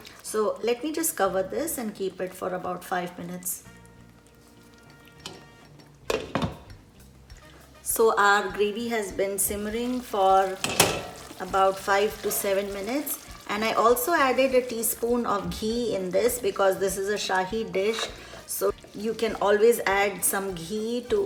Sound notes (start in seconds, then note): 6.0 lid clinking; 10.6 lid clanging